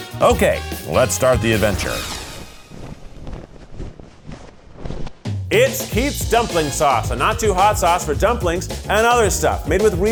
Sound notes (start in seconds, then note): 1.5 graphics whooshing; 2.1 flag rustling